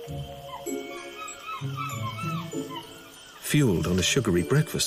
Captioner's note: playful music; monkeys hooting